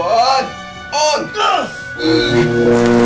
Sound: grunting; electricity zapping

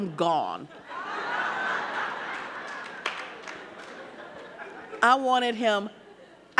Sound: audience laughing

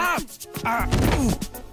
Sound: thumps

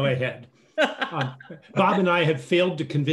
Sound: laughs

